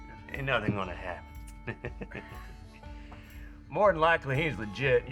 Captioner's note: chuckling